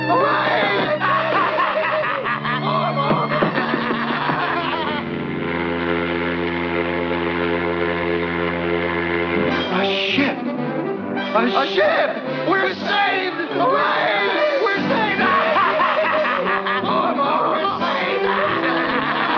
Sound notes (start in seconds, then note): 0.1 crying; 5.0 sound of a ship's horn; 17.8 laughing